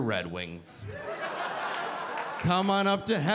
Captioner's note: audience laughing